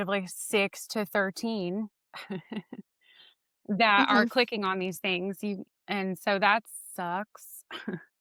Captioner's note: laughs